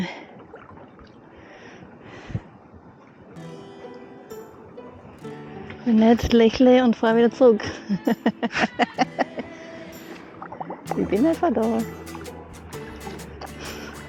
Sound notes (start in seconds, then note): 3.4 upbeat indie music; 7.6 laughing; 12.2 upbeat indie music